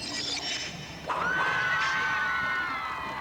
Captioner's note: cheering